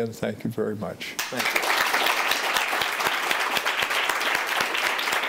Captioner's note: clapping